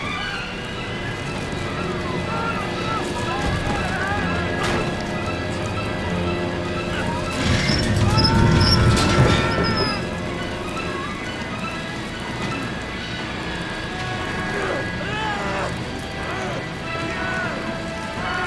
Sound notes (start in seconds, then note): 15.0 David screams